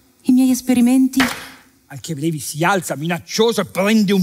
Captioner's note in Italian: rumore di mani che sbattono sulla scrivania